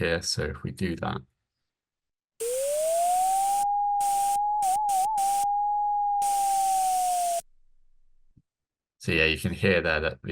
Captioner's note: flat tone, oscillates in middle, and sporadic static